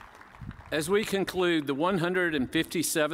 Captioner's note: cheers and applause